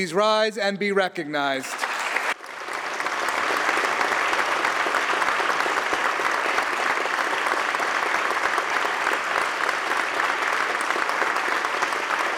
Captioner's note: applause